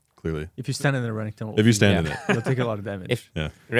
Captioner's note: laughs